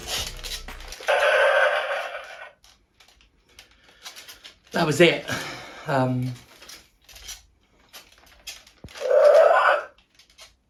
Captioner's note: roar